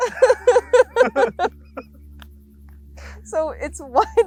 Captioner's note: laugh